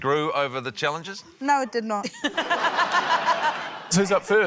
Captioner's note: laughter